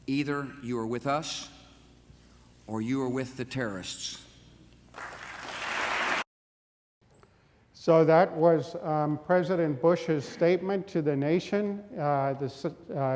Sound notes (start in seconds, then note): 5.0 audience applause